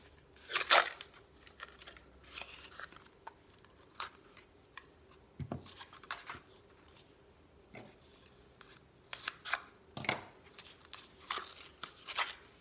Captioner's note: tearing